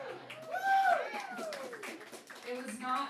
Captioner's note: laughing; audience cheering; audience applause